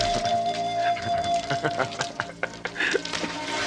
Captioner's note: laughs